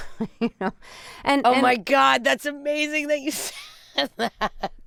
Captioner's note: laughter